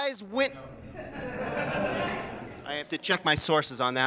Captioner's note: audience laughing